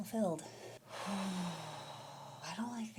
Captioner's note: sigh